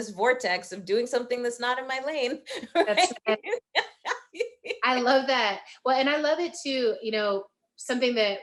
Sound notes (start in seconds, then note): 2.5 laughing